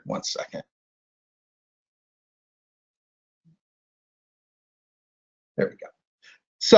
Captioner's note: silence